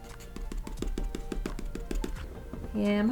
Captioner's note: pencil tapping